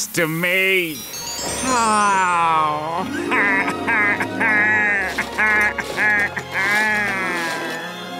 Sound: laughing

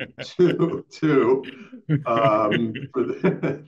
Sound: laughter

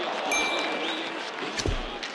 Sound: hockey game on TV, click; chime

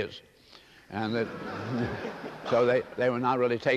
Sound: laughter

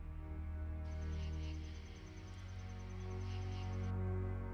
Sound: light dramatic music; crickets chirping

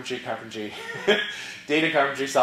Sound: laugh

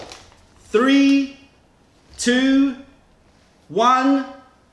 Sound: none

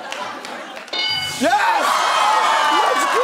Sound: bell dings

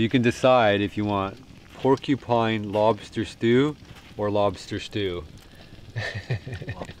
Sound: laughs

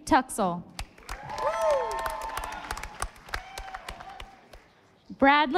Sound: audience applauding

